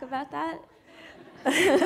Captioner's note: laughter